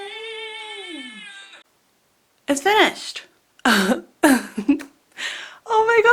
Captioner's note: laughs